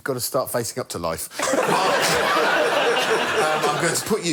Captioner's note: laughter